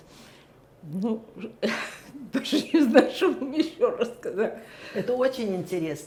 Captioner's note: laughing